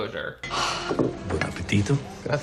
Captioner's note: Emily sighs happily